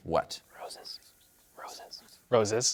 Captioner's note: whispers